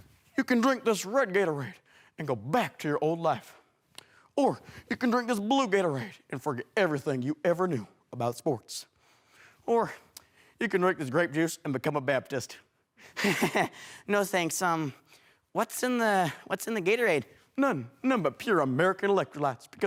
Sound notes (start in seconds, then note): 13.2 chuckles